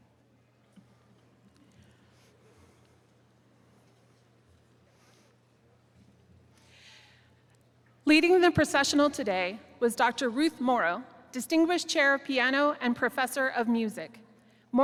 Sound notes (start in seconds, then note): none